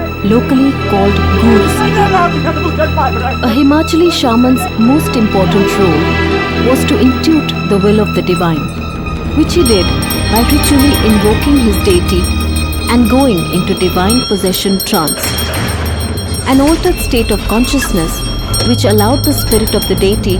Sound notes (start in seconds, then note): 15.2 intense bell ringing